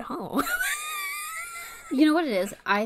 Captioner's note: wheeze laughs